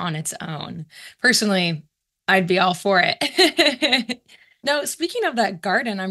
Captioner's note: laughs